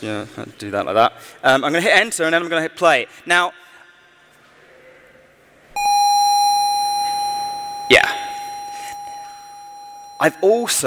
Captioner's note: continuous electronic tone